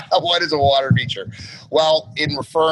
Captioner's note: laughs